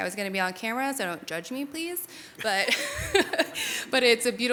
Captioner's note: laughs